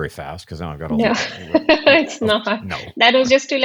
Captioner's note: laughter